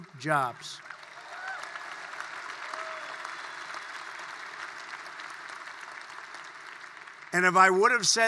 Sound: applause

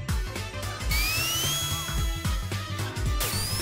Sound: revving

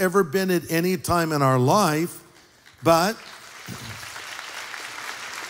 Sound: applause

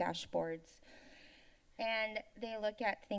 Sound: inhales

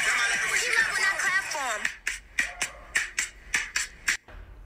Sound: clapping

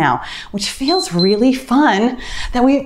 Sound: timer beeps

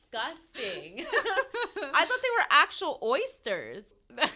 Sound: laughs; laughter

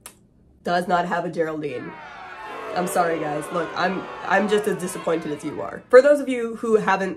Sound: crowd booing

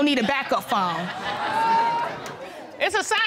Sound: audience exclaiming

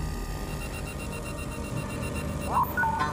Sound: phone rings

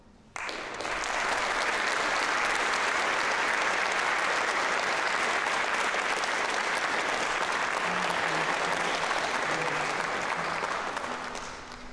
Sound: applause

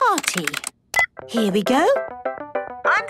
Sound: beep

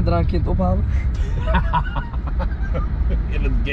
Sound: laughing

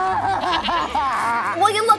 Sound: crying; bleating

